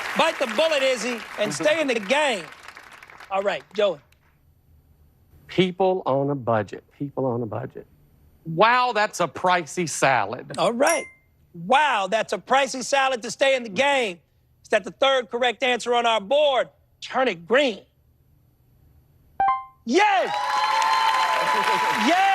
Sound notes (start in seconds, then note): 19.4 chime